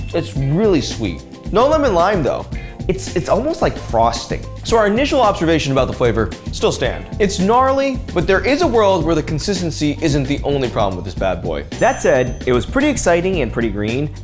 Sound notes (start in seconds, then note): none